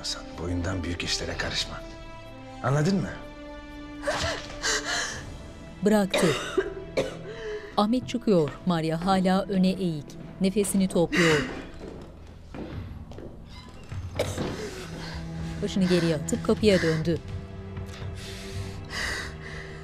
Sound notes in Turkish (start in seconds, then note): 4.1 Nefes sesi; 6.0 Öksürme sesi; 10.9 Kapı açılma sesi; 10.9 Kapı gıcırdama sesi; 13.4 Kapı kapanma sesi; 14.1 Öksürme sesi; 15.7 Nefes sesi